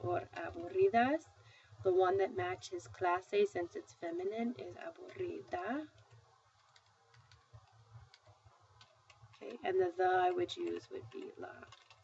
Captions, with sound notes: The one that matches [spanish], since it's feminine, is [spanish]. And the the I would use would be la.